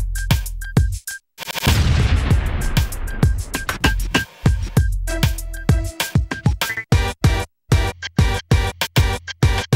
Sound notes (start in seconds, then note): 1.7 explosion booms